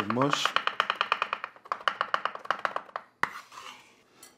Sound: knife chopping on board

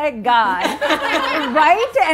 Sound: laughing

